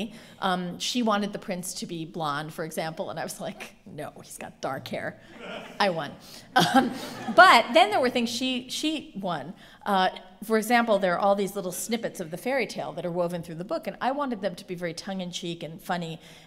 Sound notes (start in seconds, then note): 6.5 laughter